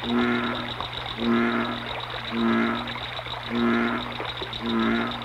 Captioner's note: frog sounds